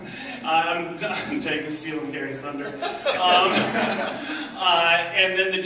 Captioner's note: laughs